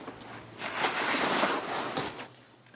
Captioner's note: rustling